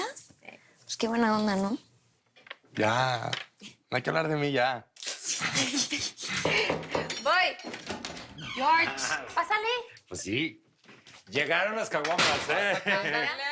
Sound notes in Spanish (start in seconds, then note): 6.4 Tocan a la puerta; 13.0 Ríe